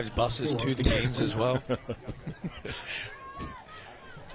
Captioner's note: laughter